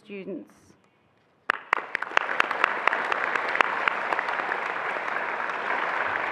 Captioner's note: attendees applauding and cheering